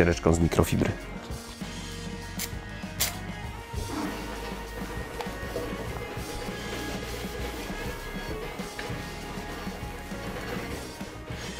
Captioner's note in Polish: dźwięki przecierania